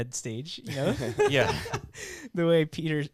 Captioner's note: laughing